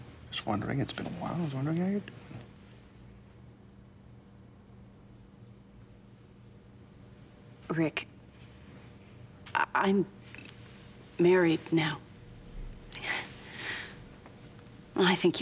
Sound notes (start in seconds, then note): none